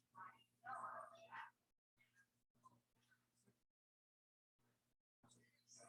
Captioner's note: people chattering indistinctly